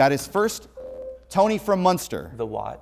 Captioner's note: buzzer